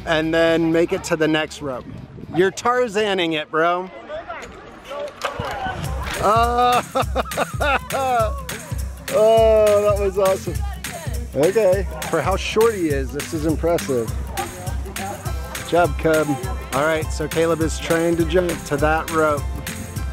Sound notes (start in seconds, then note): 6.2 laughs; 6.2 groans